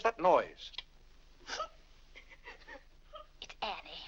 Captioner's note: Annie weeps